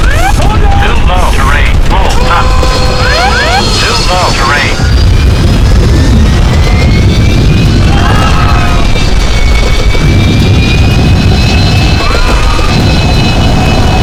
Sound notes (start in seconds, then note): 5.6 groans; 7.9 gasps/screams; 11.4 screams